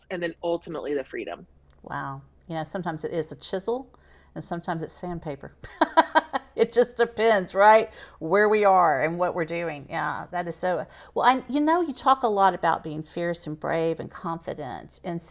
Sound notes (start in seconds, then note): 5.8 laughs